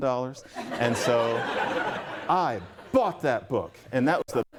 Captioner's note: laughter